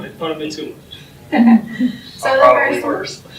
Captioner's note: laughing